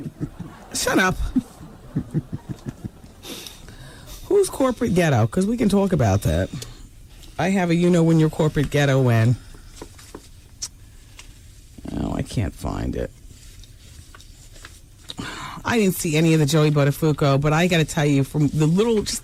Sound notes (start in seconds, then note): 0.0 laughing; 10.6 kissing